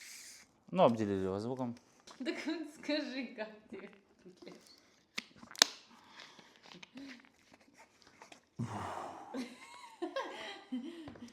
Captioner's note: sounds of drinking